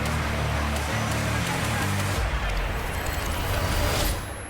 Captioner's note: applause